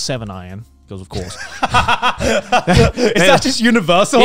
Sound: laughing

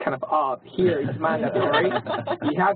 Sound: laugh

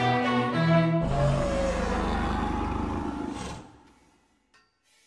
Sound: dragon roaring

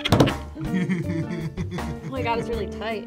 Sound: laughs

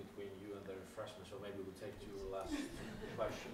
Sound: laughter

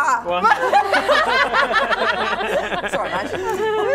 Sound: laughing

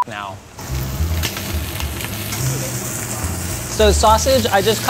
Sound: meat sizzling

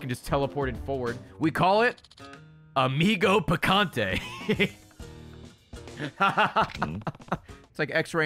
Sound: laughs

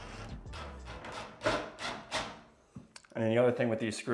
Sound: drill whirs

